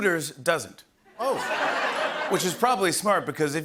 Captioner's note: laughter